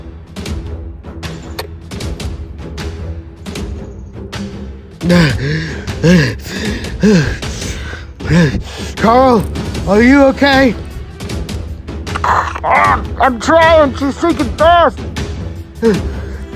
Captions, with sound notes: (gasping for air) Carl? Are you okay? I'm trying, she's sinking fast!